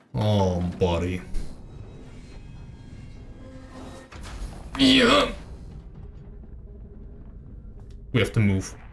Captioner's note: grunts